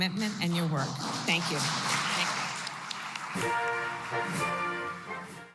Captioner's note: applause